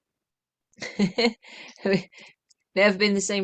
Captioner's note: laughter